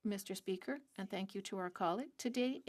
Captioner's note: speaking French